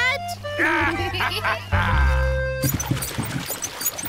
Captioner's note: both giggle